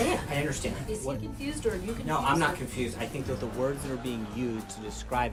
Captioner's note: raucous laugh track